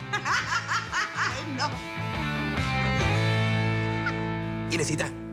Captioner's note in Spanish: Carcajada; Risas